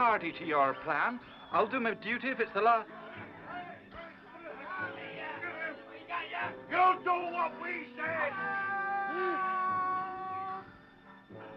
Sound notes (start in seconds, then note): 6.4 angry shouts; 9.7 angry voices